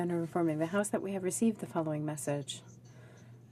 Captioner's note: speaking French